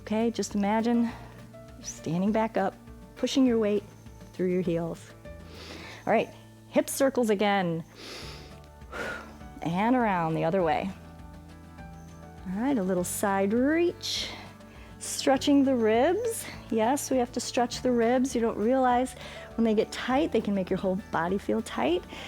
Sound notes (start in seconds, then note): 7.8 inhales and exhales